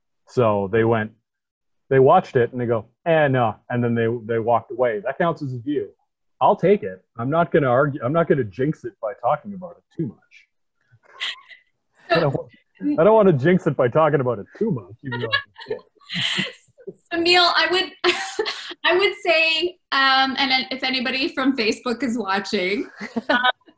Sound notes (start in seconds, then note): 12.1 laughs; 14.2 laughs